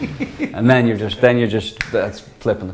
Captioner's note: laughs